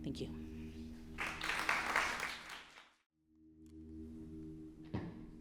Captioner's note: applause